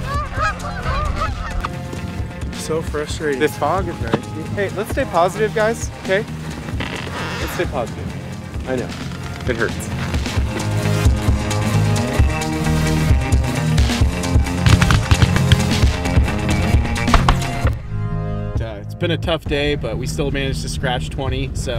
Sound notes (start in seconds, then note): 9.7 gun Shots; 9.7 waterfowl Calling